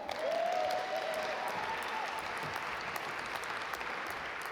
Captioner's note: audience applaud